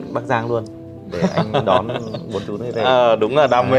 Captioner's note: laughing